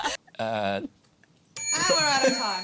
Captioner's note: bell dings